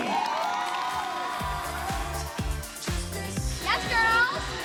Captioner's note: cheering